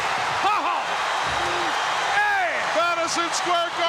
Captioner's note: crowd cheering